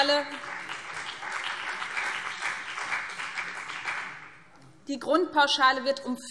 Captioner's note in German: Beifall BÜNDNIS 90/DIE GRÜNEN und CDU